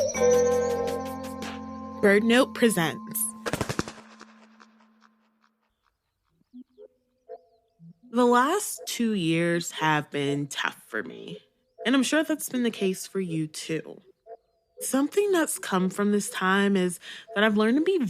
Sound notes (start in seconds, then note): 3.5 wingflap sfx